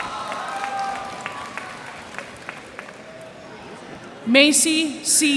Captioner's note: cheers and applause